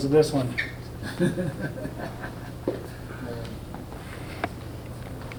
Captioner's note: Richard laughing